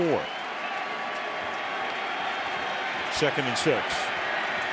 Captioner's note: cheering